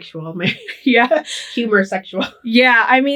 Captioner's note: laughing